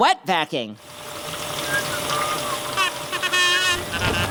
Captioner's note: whistling; kazoo